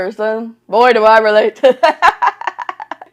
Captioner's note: laughs